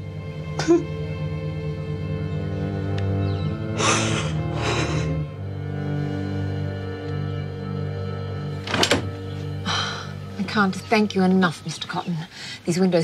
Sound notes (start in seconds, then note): 0.6 sobs